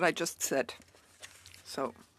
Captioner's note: speaking in French